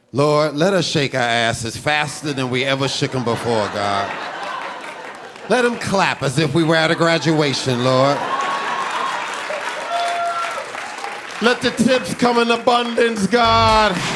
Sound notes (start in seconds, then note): 4.4 audience laughing and applauding; 8.4 audience laughing and applauding; 13.4 upbeat music